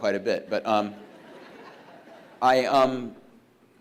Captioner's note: audience laughs